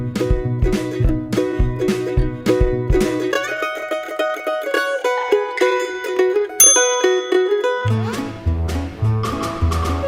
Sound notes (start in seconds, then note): 6.6 timer ding; 7.2 whimsical children's music